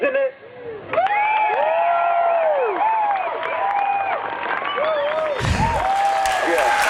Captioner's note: crowd screams and cheers on video